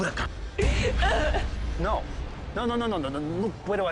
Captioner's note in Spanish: Llanto de ella